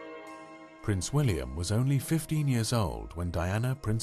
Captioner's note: voiceover